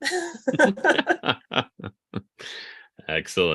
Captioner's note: laughing